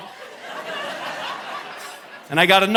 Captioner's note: audience laughing